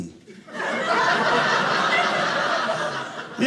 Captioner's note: audience laughing